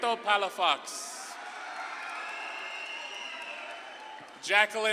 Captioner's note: audience claps and cheers